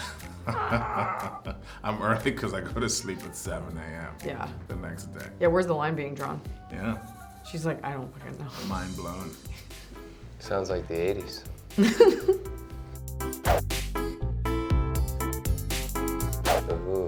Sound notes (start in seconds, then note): 0.0 laughing; 11.7 laughter; 14.0 upbeat music